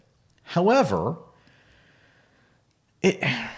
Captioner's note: sighs